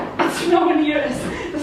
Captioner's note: laughs